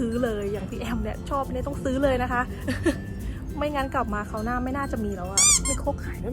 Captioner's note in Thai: หัวเราะ